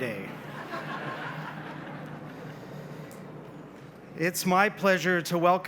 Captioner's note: audience laughs